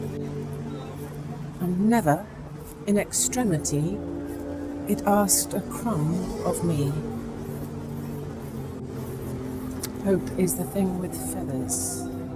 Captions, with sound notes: Yet never in Extremity, it asked a crumb of Me. (hands rubbing) Hope, is the thing with feathers